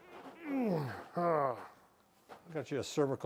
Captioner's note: grunts